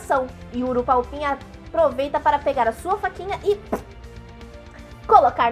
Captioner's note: cute puncturing sound